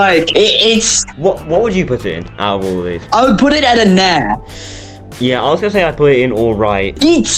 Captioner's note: inhale